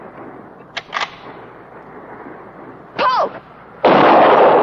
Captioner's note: gun clicking; gun firing